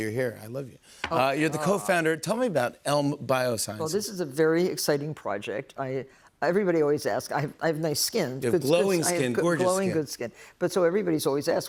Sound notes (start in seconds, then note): none